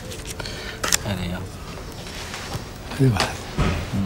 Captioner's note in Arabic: يتحدث باللغة الأجنبية